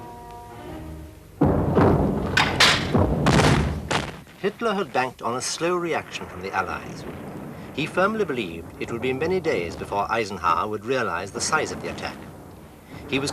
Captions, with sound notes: (mortars exploding) Hitler had banked on a slow reaction from the Allies. He firmly believed it would be many days before Eisenhower would realize the size of the attack.